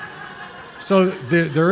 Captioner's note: laughter